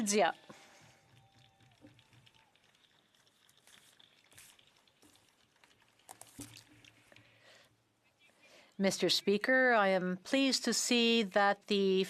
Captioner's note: speaking French